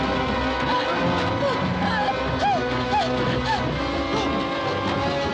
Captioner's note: gasping